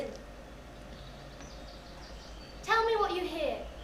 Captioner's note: bird sounds